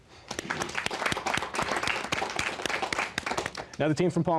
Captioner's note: applause